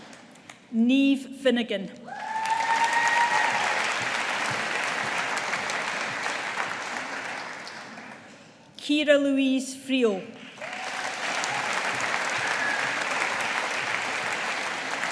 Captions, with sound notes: Niamh Finnigan. (AUDIENCE APPLAUDING) Kiera-Louise Friel. (AUDIENCE APPLAUDING)